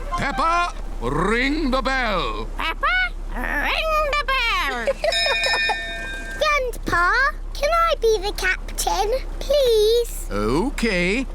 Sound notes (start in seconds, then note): 4.6 laughs; 5.0 rings bell